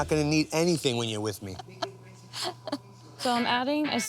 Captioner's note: laughs